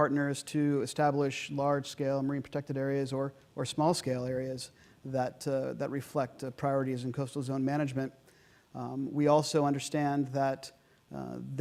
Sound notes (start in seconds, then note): none